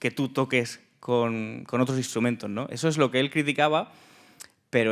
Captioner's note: speaking in Spanish